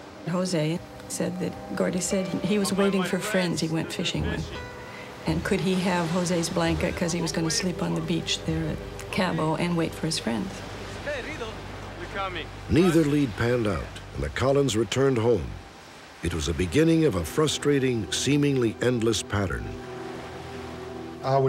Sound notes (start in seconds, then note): 10.4 speaking spanish